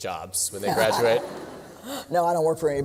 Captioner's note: laughter